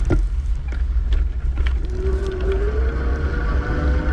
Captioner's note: eBike motor revving